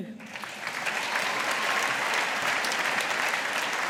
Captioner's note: audience applauding